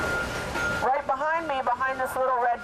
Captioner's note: vehicle beeping